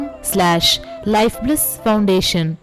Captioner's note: hindi